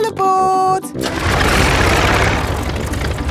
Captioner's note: plane engine starts